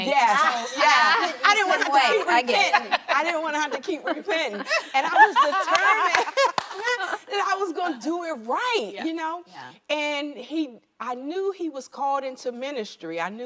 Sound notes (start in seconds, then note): 0.4 women laughing; 4.5 laughter